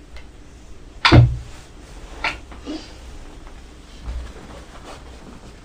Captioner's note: thumping and rustling